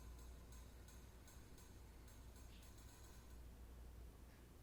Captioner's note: object clicking